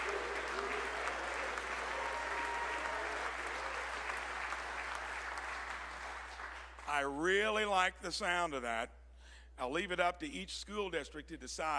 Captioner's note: applause